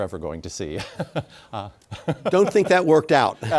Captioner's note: laughs